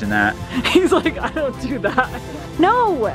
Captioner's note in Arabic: ضحكات خافتة